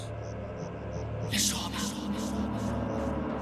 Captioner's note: whispering